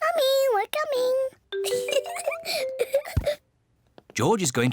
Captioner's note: giggles